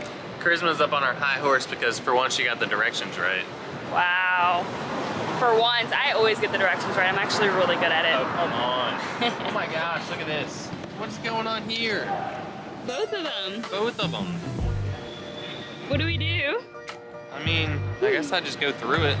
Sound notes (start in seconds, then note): 9.0 laughing